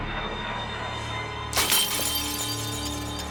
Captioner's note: mug shatters